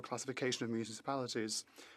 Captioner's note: speaking French